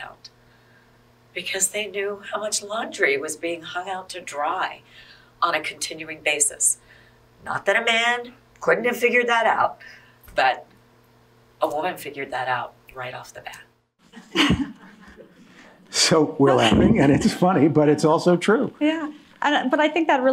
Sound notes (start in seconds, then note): 14.2 audience laughing